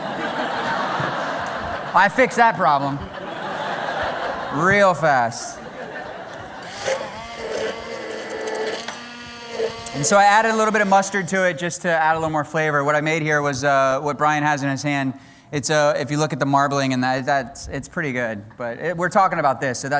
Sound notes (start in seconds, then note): 0.0 laughter; 6.2 grinding